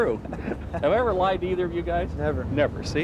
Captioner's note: laughing